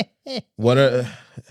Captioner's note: laughing